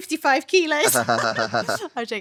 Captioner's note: laughing